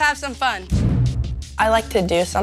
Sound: air swooshing

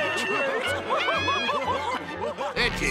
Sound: laughing

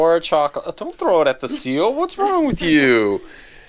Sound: laughs

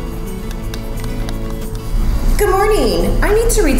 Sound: buttons clicking

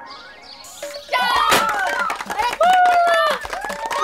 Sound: everyone clapping and cheering

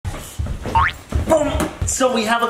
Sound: boink sound

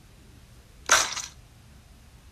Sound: cracks

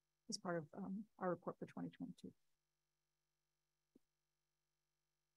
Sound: none

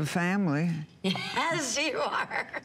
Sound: laughter

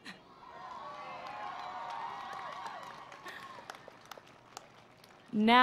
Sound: cheering

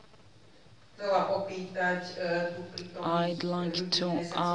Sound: non-english

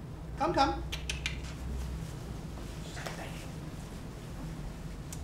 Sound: clicks tongue

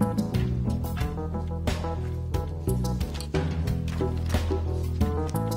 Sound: clock ticking; whimsical music

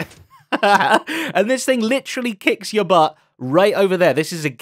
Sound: laughs

